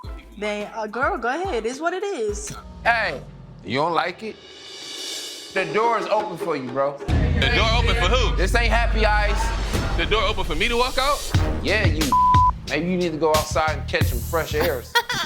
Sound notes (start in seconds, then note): 12.1 beep